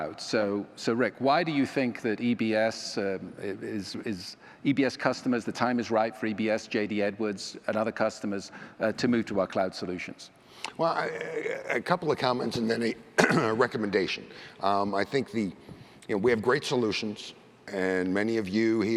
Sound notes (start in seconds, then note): 13.1 cough